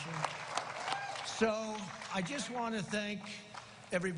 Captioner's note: cheers and applause